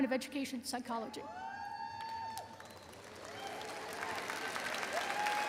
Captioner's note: audience cheering